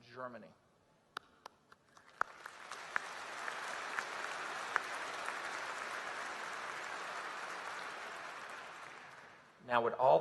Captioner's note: applause